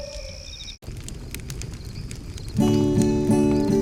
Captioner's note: animal howling; fire crackling; light guitar music